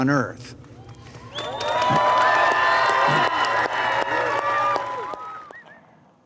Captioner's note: cheers and applause